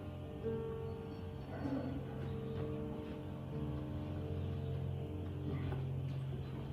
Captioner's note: makes unhappy noise